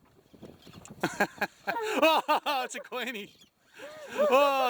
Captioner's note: laughs